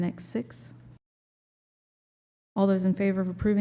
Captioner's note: silence